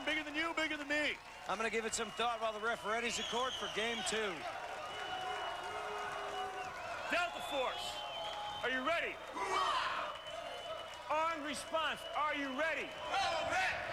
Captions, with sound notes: Bigger than you, bigger than me. I'm gonna give it some thought while the ref readies the court for game two. Delta Force, are you ready? [cheers] Armed Response, are you ready? [cheers]